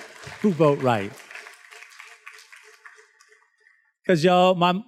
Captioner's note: students claps